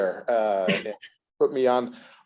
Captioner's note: laughs